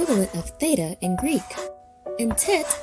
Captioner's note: chalk scratching